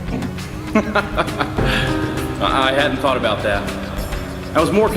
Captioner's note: voice laughs